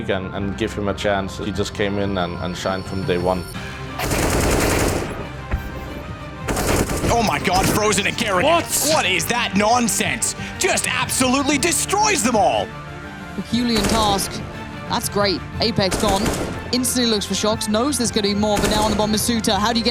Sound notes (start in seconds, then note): 4.3 dramatic music; 4.3 gun fires; 12.9 dramatic music